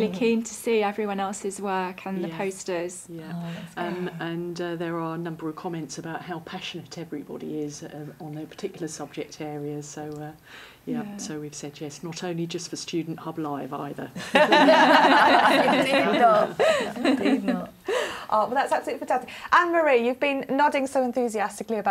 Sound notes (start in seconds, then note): 14.2 laughing